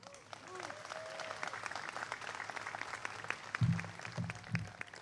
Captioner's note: applause